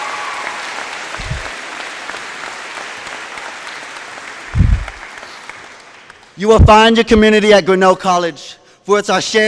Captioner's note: applause